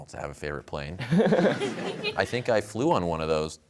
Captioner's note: laughter